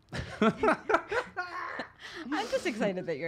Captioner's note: laughs